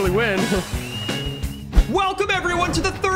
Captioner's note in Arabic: صافرات أعضاء الجمهور